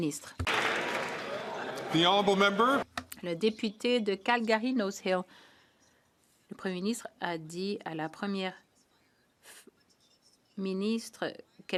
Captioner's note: some Applause